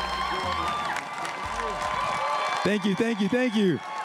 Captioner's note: crowd cheering and applauding